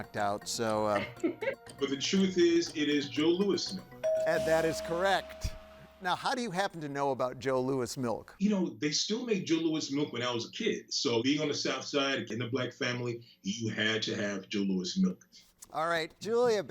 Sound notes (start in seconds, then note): 0.9 laughs; 2.9 tone chimes